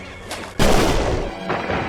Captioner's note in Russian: плесь